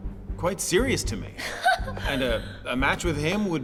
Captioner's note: scoffs